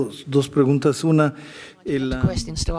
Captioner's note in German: spanisch